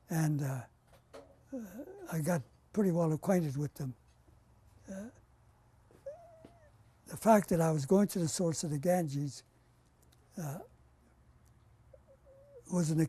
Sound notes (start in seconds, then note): 4.0 pauses for 3 seconds